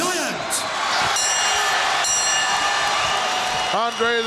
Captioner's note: audience cheering; bell ringing